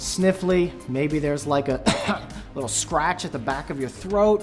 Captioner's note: cough